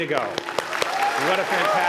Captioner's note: applause